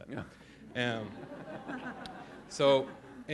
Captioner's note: laughter